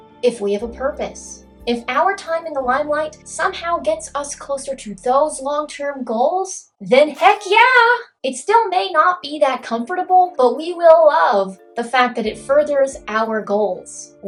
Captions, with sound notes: if we have a purpose, if our time in the limelight somehow gets us closer to those long-term goals, then heck yeah! *party popper* It still may not be that comfortable, but we will love the fact that it furthers our goals.